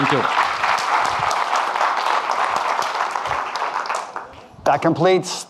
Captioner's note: audience clapping